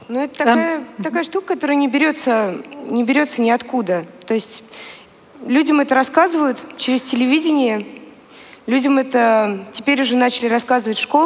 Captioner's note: foreign Language